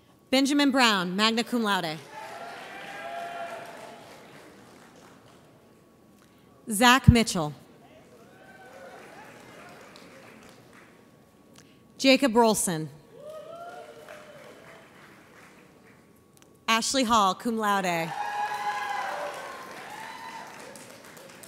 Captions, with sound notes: Benjamin Brown, magna cum laude. (audience applauds) Zach Mitchell. (audience applauds) Jacob Rolson. (audience applauds) Ashley Hall, cum laude. (audience cheers)